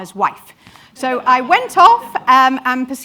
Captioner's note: audience laughs